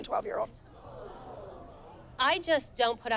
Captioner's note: crowd exclaims